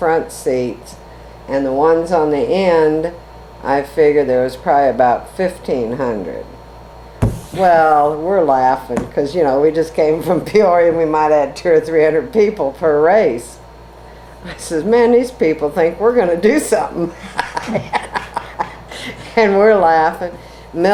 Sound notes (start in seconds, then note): 17.1 laughs